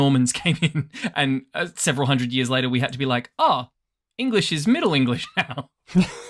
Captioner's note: laughs